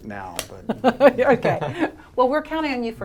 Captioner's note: laughing